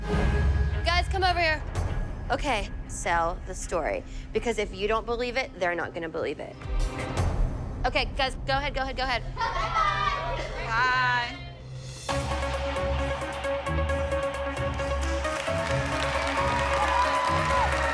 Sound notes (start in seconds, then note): 14.6 applause; 15.0 whooping